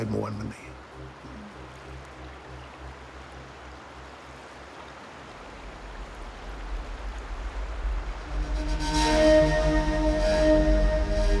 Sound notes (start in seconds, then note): 2.8 waves softly crash; 8.5 ominous music